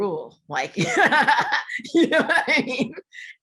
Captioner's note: laughter